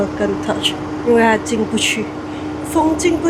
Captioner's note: wind